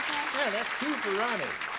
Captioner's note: clapping